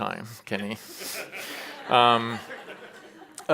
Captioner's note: chuckles